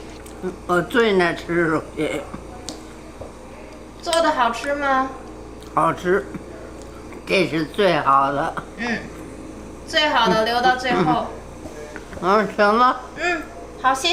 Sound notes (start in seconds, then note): 0.4 grandma speaking Chinese; 4.1 speaking Chinese; 5.8 grandma speaking Chinese; 9.9 speaking Chinese; 12.2 grandma speaking Chinese; 13.9 speaking Chinese